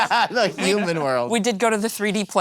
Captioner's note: laughing